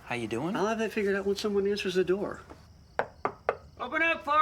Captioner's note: knuckles rapping